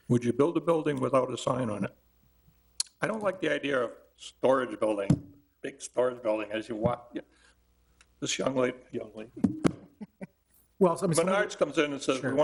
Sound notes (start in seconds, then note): 9.9 chuckles